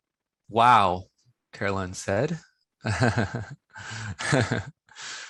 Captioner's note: laughs